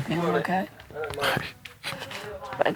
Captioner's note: laughs